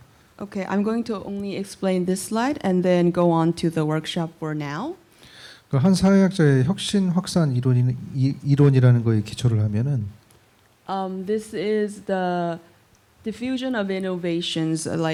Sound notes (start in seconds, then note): 0.0 speaking korean; 5.5 speaking korean